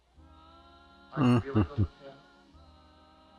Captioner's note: chuckling